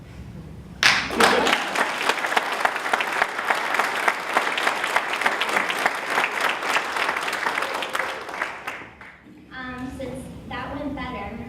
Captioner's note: applause